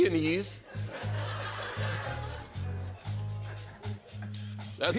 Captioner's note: laughter